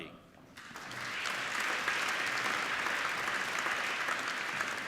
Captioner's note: applauding